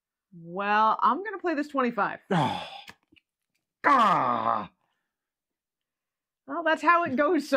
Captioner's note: groans